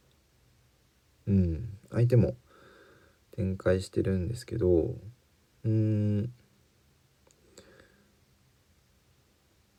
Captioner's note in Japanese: 咳払い